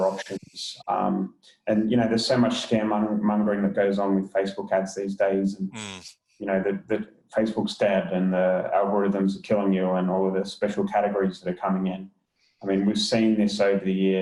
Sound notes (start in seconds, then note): 5.6 murmurs